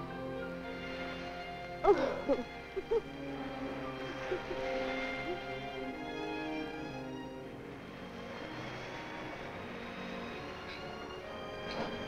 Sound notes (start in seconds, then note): 0.2 light orchestral music; 1.8 Ismene sobbing